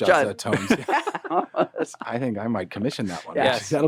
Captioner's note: all laughing